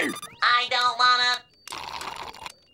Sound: slurping

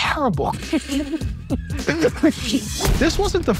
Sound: and crew laugh

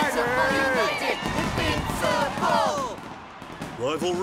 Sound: chanting

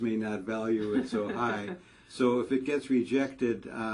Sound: laugh

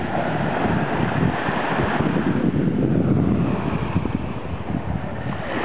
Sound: wind and water lapping on to beach sounds

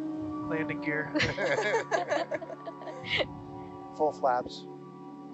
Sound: all laughing

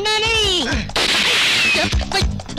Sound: gun Firing

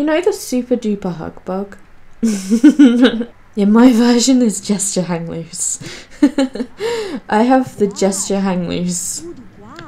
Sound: laughs

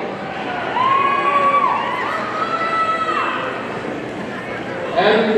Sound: audience cheering

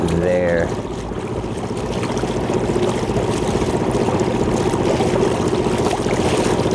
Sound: boat engine purring; water sloshing

